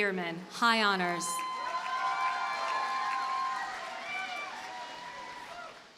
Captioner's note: audience cheers and applauds